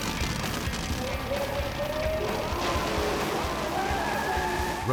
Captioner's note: engine revving; race Announcer chattering; tires squealing